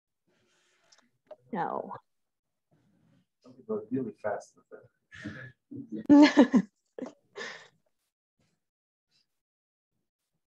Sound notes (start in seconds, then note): 3.1 murmuring; 6.0 chuckles